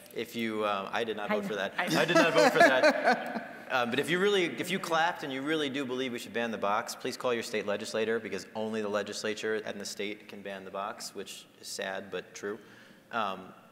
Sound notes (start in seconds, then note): 1.9 scattered laughing